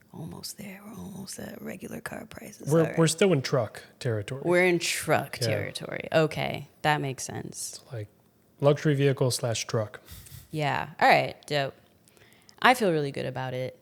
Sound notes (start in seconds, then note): 10.1 chuckles